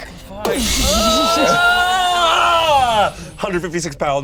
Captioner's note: magical twinkling; yelling